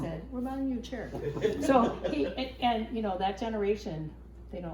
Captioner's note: laughing